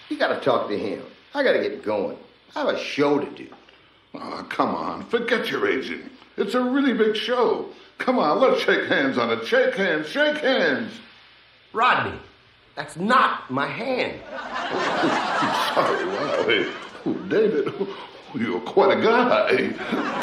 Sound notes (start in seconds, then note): 14.2 audience laughs